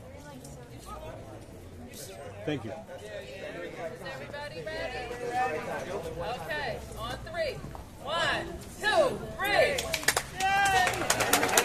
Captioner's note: cheers and applause